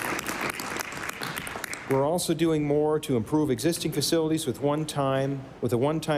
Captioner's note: applause